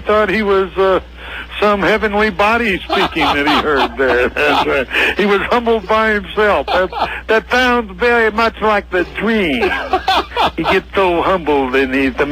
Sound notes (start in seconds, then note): 2.7 laughs; 6.5 Imitating Dusty Rhodes